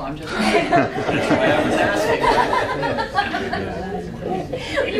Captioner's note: audience laughing